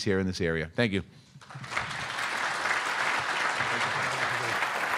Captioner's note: audience applaud